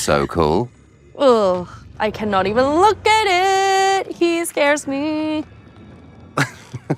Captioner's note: groans; laughs